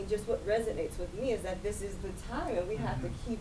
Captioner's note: voice muffled